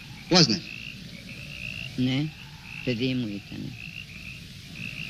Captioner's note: speaking in foreign language